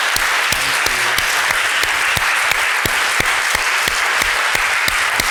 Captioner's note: applause